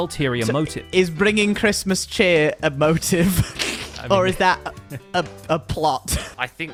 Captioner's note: snickers